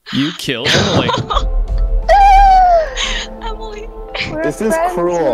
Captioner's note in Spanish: solloza